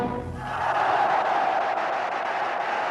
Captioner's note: cheering